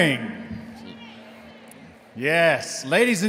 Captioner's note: crowd